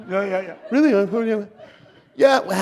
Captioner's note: laughter